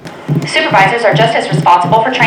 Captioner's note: voiceover